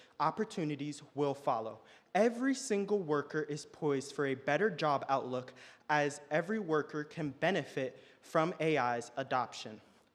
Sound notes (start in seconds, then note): none